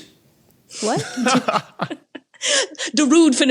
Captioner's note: laughs